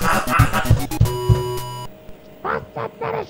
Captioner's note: knocks on the wall from the other apartment